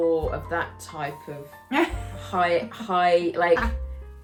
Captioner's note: laughs